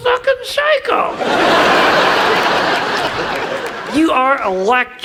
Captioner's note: audience laughs